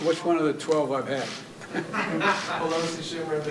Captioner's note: laughter